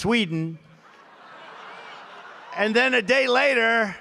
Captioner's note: laughter